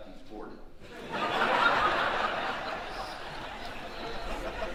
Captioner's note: audience laughing